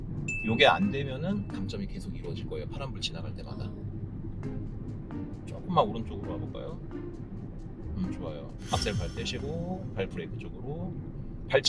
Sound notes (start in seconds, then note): 8.6 swoosh